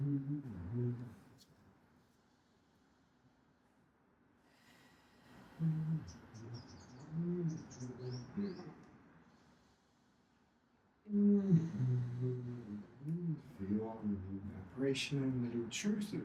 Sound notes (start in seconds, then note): 5.4 humming